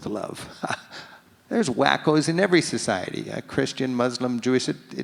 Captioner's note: laughs